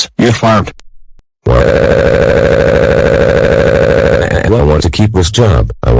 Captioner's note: Dave Crying